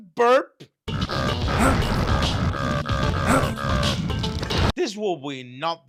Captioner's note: fart and burp sound